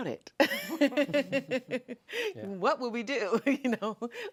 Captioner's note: laughing